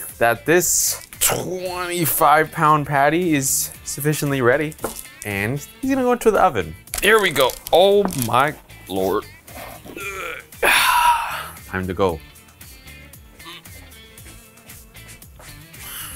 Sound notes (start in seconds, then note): 9.9 grunts; 13.4 grunts